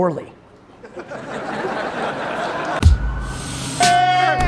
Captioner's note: crowd laughs